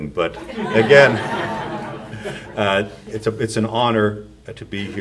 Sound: audience laughs

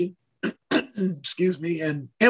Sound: clears throat

